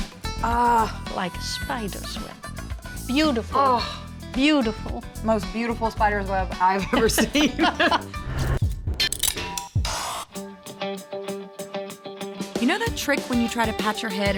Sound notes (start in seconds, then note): 6.9 laughing